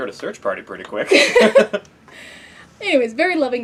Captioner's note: laugh